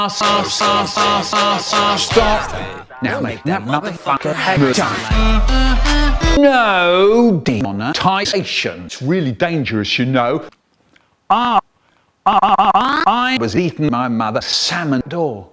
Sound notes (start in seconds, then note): 12.5 pitchshifted Drastically